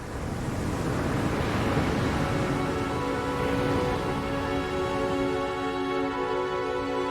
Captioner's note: water roaring; pensive music